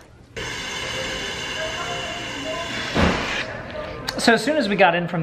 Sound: ball inflating

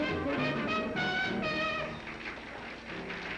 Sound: applause

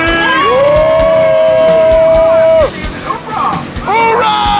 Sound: cheering

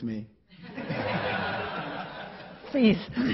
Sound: laughing

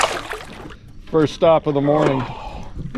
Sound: fish splashing

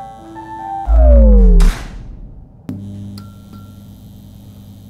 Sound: light whirs down, then regains power

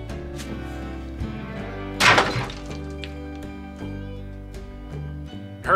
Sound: crashing sound

